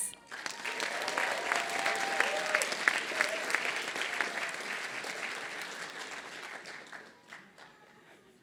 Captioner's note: applause